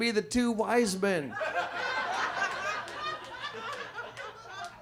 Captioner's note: audience laughs